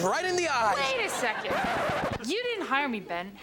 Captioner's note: record scratches